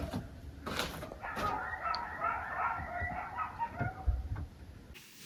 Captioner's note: dog barking